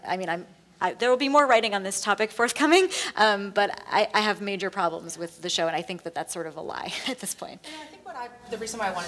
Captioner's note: laughs